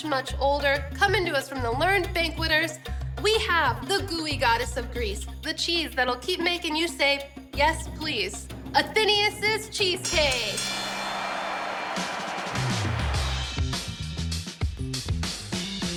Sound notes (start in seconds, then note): 10.2 applause sound effect